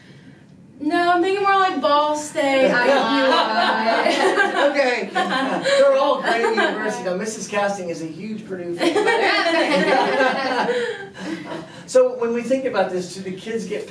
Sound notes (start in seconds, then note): 3.6 laughter